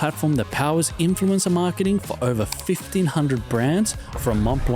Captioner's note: keyboard typing sounds